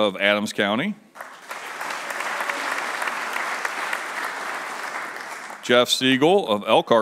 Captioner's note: applause